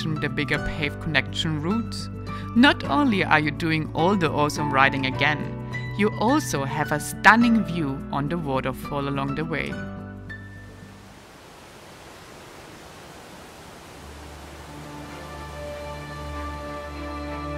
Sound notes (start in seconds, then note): 10.6 water rushing; 14.5 inspirational music